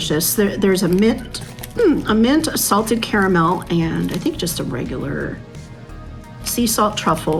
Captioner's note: hiccup